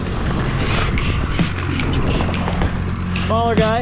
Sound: rhythmic clicking

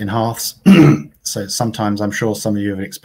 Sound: clears throat

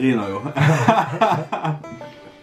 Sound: laughing

